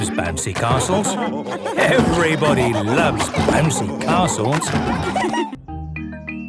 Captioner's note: laughter